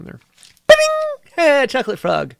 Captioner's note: ping!